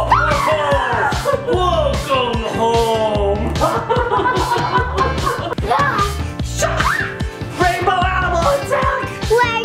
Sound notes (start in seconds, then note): 0.0 man jumps out yelling; 0.9 laughs hysterically; 2.6 children playing